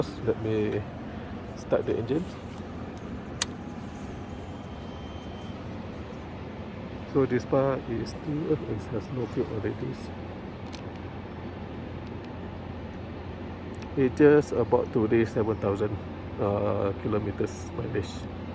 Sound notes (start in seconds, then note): 4.1 fuel pump sound